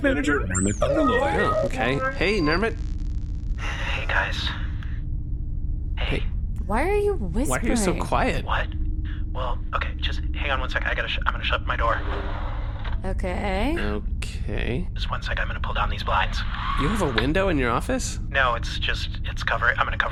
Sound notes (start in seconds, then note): 4.3 conspiratorially